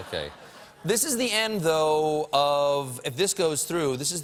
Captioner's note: laughter